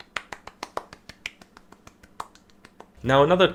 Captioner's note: clapping intensifies